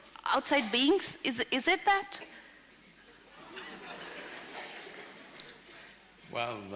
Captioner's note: few laugh